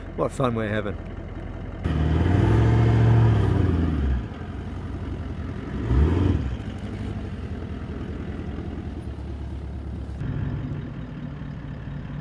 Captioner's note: vehicle sounds